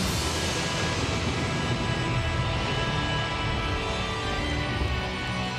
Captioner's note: dramatic music; thunder rumbling